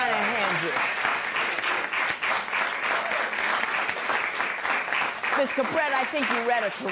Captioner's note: applause